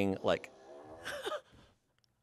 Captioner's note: fart machine farts; laughs